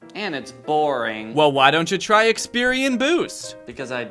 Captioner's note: voiceover